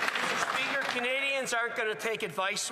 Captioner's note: some Applause